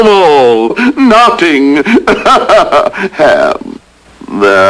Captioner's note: chuckles